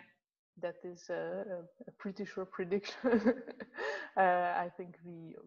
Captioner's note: laughs